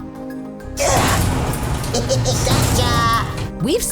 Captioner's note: laughing